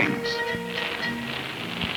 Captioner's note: fire crackling